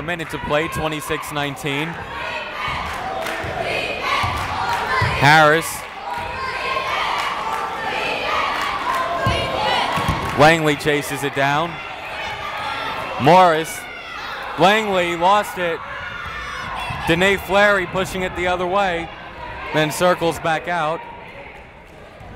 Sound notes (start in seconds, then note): 3.2 clapping; 3.5 cheering; 8.5 clapping; 8.8 cheering